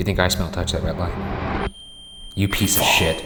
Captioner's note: REM pod screeching